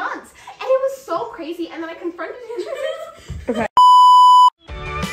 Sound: giggles

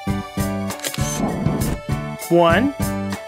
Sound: SFX: Camera Shutter

